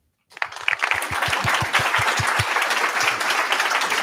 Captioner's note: applause